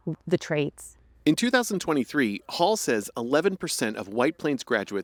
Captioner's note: voice-over